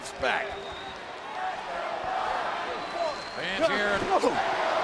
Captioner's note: audience cheering